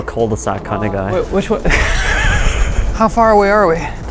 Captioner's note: laughs